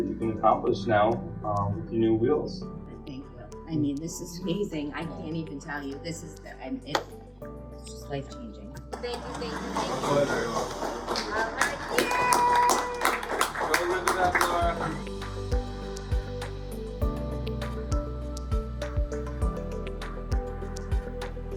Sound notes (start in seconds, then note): 11.9 applause